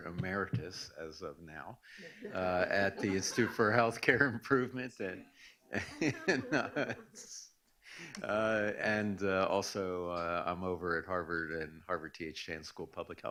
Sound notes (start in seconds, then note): 5.7 laughs